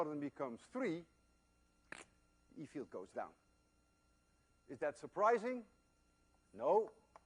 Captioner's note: krrk